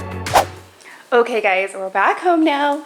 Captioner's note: air whooshes